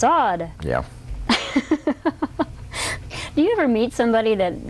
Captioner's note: laughter